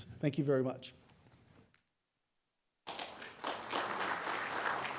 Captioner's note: applause